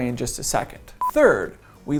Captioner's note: beep